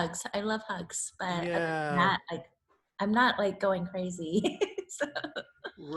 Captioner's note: laughs